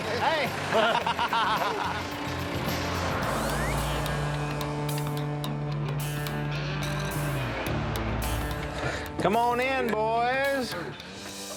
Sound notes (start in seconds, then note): 0.6 laughter